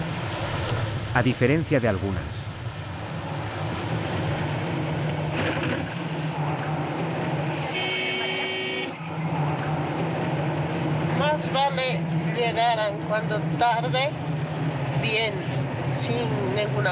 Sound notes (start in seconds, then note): 7.6 car horn honking; 11.7 speaking in foreign language